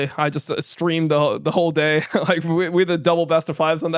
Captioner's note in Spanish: risas